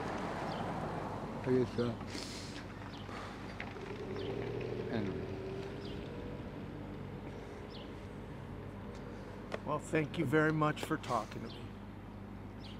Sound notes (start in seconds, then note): 2.1 inhales sharply; 8.2 car passing